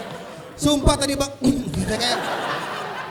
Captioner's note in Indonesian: berdehem